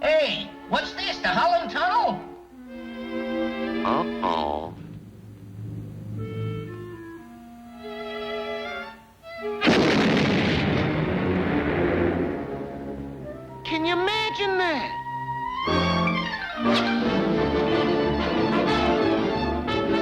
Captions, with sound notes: Hey! What's this? The Holland Tunnel? Uh-oh! (tense music) (gunfire blasts) Can you imagine that? (fast-paced dramatic music)